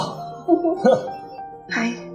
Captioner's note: giggling